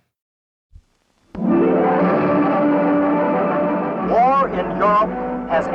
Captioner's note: soundbite of archived recording